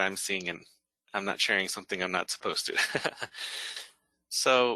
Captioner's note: laughs